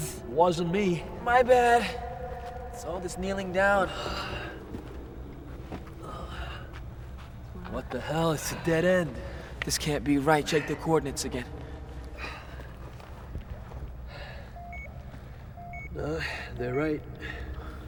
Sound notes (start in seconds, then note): 11.8 beeping sounds